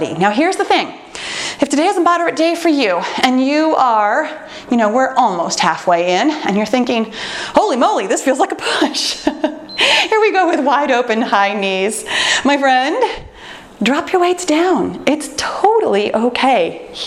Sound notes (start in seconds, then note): 9.6 timer beeps